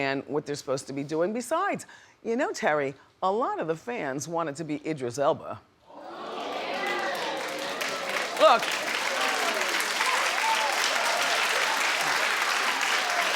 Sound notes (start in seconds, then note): 6.0 audience cheers; 10.2 audience applauds